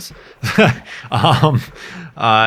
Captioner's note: laughs